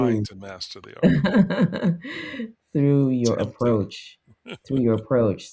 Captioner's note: laughs